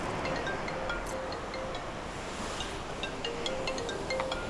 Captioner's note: phone ringing